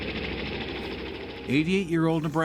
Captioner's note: helicopter whirring